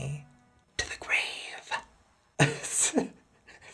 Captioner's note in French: chuchotement dramatique